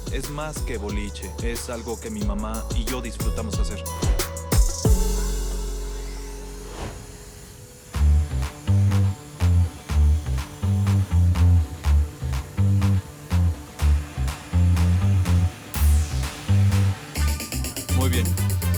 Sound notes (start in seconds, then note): 6.8 drill whirring; 10.3 upbeat funky music